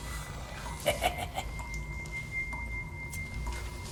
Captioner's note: laughs